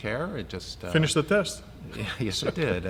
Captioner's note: laughs